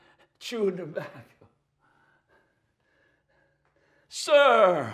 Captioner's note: chuckles